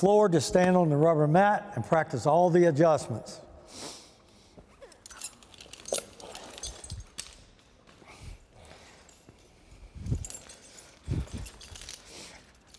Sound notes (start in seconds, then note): 4.8 jangling